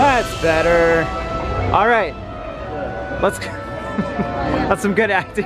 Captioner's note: laughing